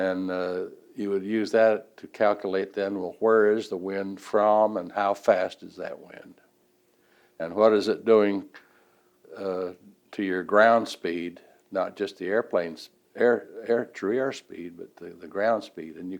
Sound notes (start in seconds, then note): none